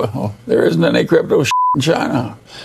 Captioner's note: beep